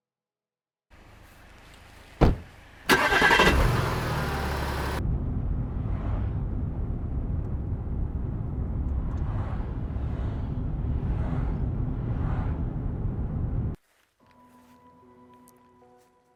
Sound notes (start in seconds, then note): 2.1 car door thuds softly; 2.8 engine revs; 5.2 quiet whirring